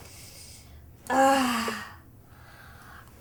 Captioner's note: sigh